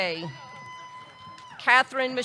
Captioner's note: audience cheering